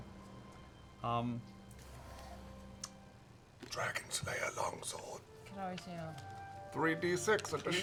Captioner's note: whispering